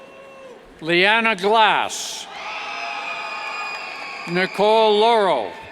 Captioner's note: cheers